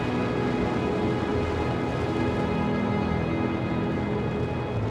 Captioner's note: engines roaring